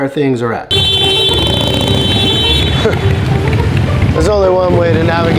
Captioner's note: car horn blaring